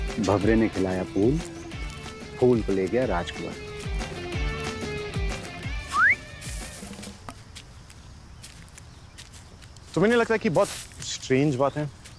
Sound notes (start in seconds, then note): 5.8 Whistle; 7.5 Rustle of the leaves